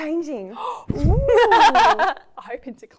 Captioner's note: laughing